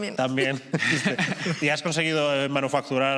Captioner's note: laughter